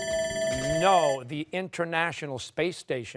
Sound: timer sounding

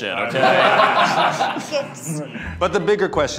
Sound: laughing

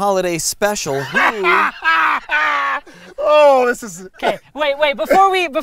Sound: raucous laughter

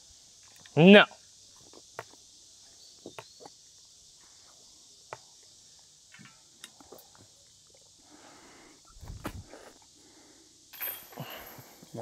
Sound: pause

